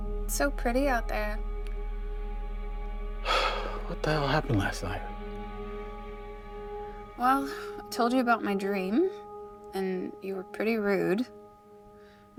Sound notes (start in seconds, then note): 3.2 exhales